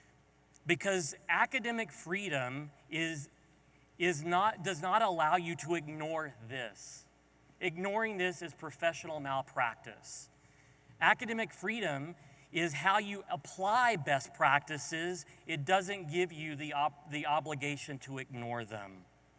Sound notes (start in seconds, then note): none